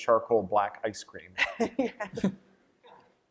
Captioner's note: laughter